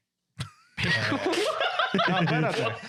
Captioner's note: laughing